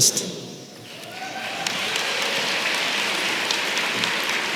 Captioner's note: applause